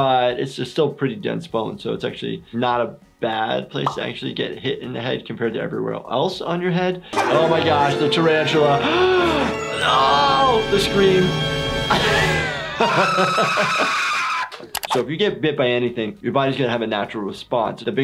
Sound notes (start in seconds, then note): 9.7 gasp; 11.9 laughs; 12.0 screaming